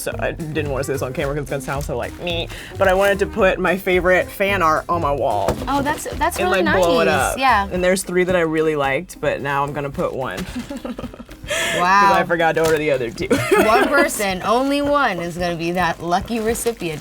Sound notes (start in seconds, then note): 10.4 laughing; 13.2 laughing